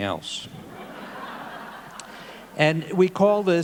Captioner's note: audience laughing